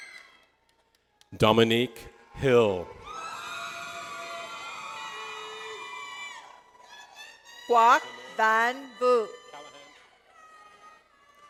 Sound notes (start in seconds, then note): 3.8 audience cheers